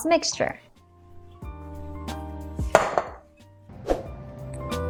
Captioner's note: bowl thuds